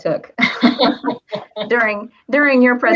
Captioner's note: laugh